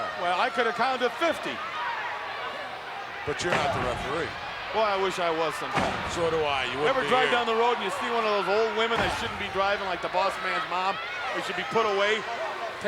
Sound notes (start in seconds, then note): none